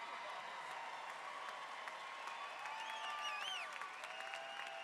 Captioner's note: audience cheers